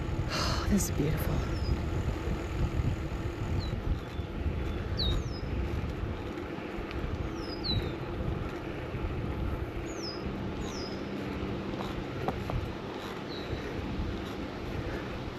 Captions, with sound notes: oh, this is beautiful [bird song]